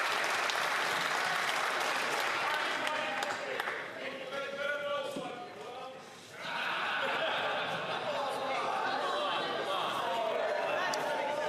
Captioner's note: some Applause